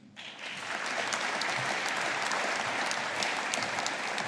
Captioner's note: audience applauding